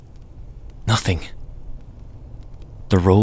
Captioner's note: surprised tone of voice